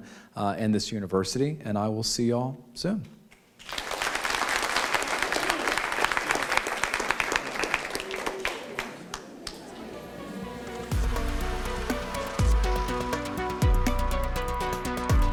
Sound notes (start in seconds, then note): 3.6 applause; 9.3 closing music